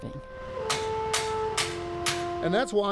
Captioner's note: metal clanging